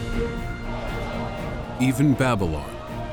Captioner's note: triumphant music; screaming